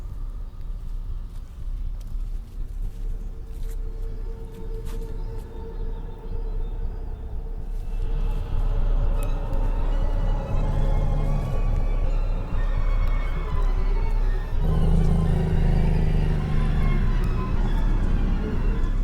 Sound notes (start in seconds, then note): 0.0 suspenseful music continues; 14.6 wolf growling